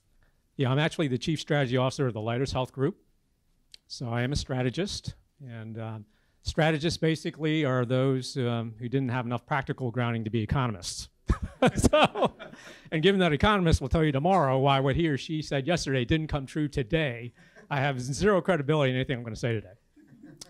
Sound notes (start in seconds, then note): 11.3 laugh